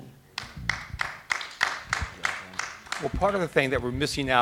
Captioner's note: audience applauding